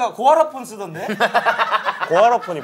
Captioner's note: laughing